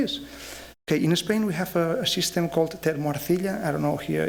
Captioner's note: speaking spanish